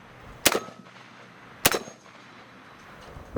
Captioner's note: gunfire